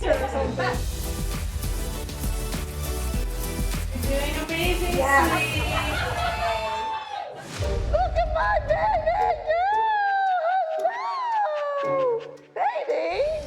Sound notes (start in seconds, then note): 0.0 upbeat music playing; 5.5 all cheering